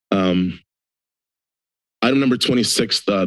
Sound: silence

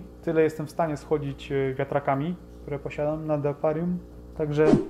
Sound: motherboard fans

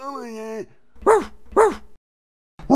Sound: grandpa mumbling; bark bark

